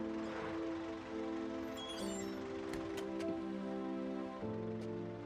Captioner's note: brakes squeak